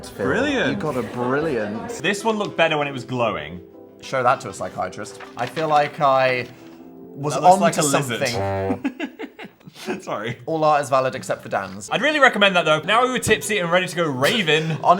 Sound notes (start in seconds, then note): 7.8 horn blowing